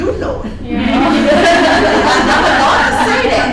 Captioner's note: participants murmuring in agreement